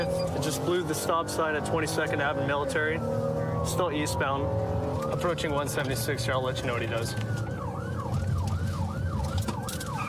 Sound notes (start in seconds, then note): 7.2 siren blaring